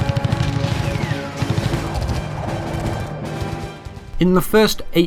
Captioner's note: war sounds